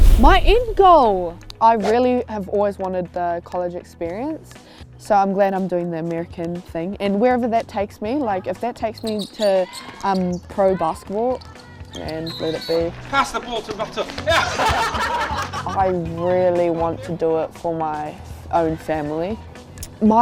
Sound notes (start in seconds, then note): 13.0 laughs